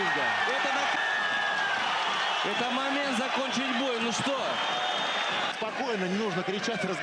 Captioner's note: cheering